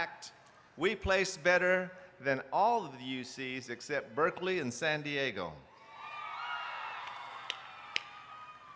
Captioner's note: applause